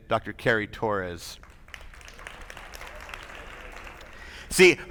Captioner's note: attendees applauding